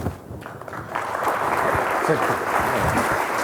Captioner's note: applause